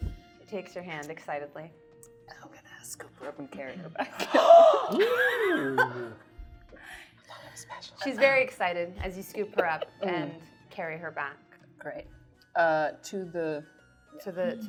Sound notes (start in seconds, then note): 4.0 laughing; 4.2 gasping